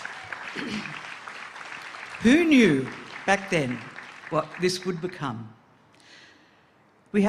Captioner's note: applause